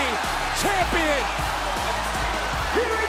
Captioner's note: bell rings